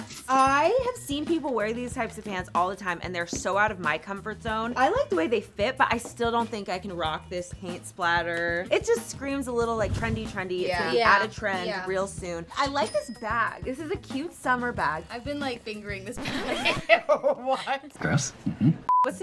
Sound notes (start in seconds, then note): 16.1 record scratch; 18.3 laughs